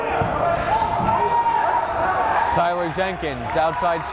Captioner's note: yelling